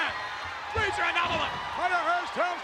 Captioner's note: spectators cheering